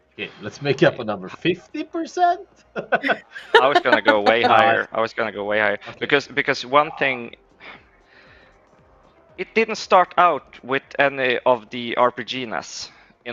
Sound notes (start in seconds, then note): 2.7 laughs